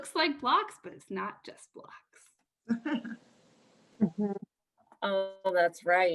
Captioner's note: laughter